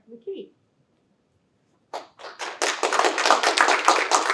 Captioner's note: applause